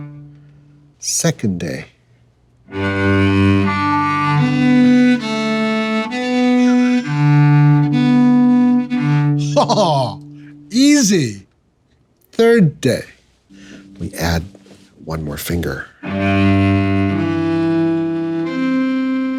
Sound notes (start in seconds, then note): 2.7 bright cello music; 9.4 chuckling; 16.0 bright cello music